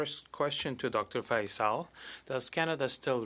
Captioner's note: speaking French